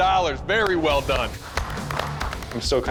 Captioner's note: applause